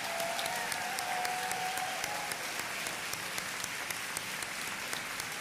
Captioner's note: audience continues applauding